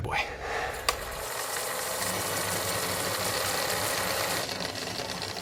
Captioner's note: whir of tape rewinding